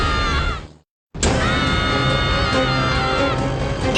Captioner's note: screaming